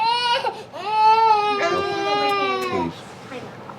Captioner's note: baby crying